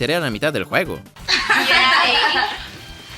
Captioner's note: laughin